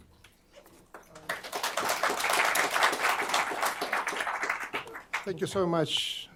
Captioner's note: applause